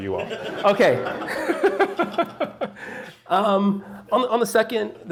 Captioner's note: chuckling